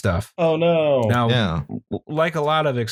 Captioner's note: affectedly